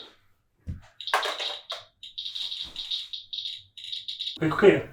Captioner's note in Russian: щелчок дозиметра